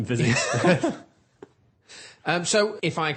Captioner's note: laughter